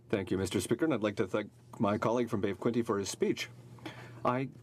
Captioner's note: speaking in french